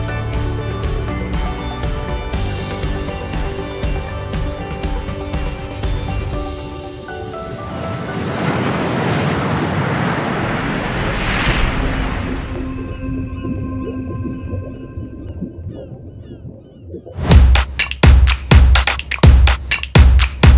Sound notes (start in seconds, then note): 0.0 bright instrumental music; 7.7 water splashing; 17.2 drums beating